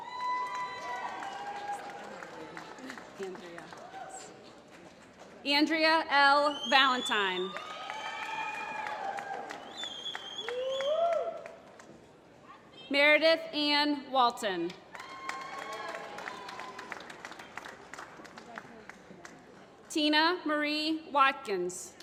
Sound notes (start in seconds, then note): 0.0 applause; 7.3 applause; 14.9 applause